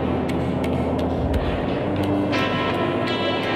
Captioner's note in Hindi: none